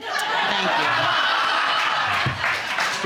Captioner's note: audience laughing